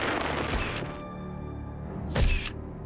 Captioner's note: camera shutter; ominous music; camera shutter